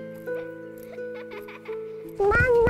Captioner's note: Girl laughing